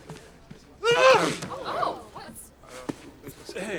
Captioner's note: sneezes